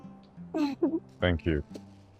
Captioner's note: chuckles